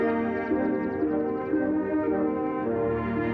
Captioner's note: birds chirping